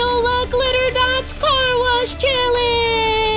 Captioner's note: laughs